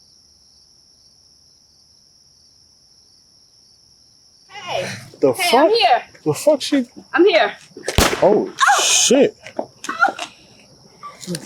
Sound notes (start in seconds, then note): 7.9 gun shot; 8.4 Sasha yelling in pain